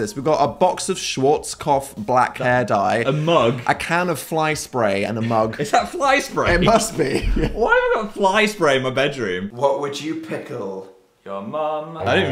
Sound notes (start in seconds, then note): 5.2 laughs